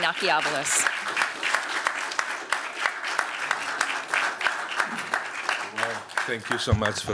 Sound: applause

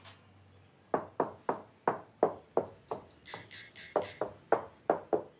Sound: knocking continues

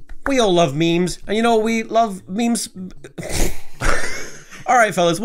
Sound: laughs

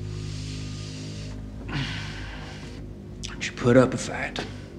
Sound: sighs

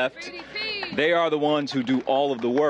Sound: applause

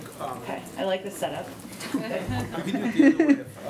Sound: laughter

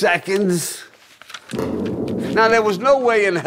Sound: bombing continues

